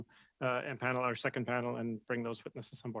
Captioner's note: speaking French